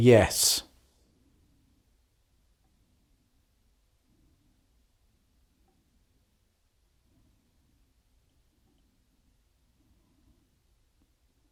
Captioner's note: silence